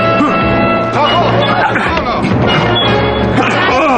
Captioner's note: groans